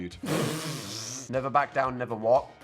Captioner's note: Dan laughs